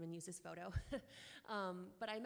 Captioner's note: chuckles